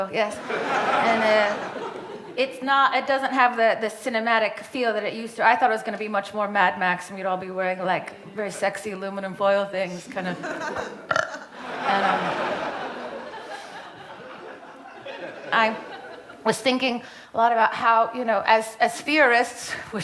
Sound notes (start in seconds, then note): 0.3 audience laughing; 10.7 burps; 11.6 audience laughing